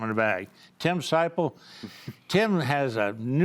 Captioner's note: chuckles